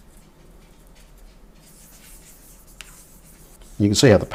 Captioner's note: silence